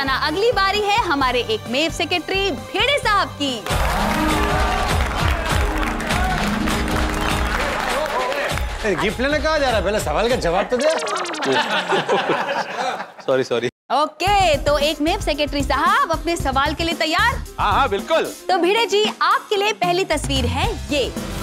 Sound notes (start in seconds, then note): 3.6 applauding; 3.7 cheering; 10.7 laughs